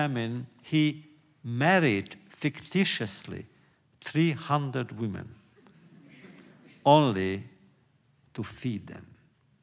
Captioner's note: laughter